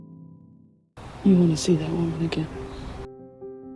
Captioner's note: voiceover